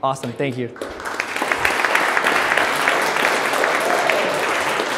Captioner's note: applauding